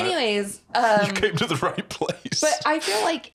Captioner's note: laughing